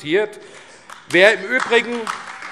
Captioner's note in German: Beifall AfD